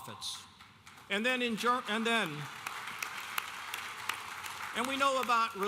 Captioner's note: audience applauding